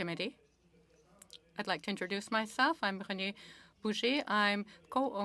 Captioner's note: speaking French